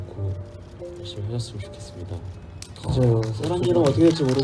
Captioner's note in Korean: 박수